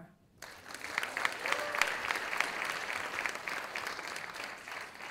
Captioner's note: audience applauding